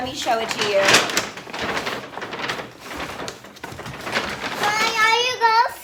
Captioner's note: paper bag crinkling